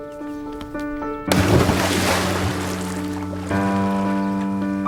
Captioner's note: splash